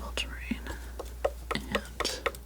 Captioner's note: scratching